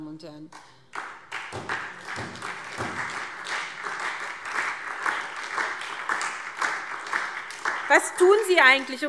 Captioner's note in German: Beifall SPD und vereinzelt DIE LINKE